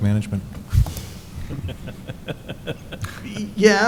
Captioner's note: laughing